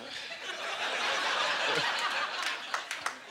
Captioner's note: audience laughter